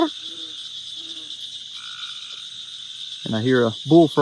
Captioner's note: Sheldon making frog call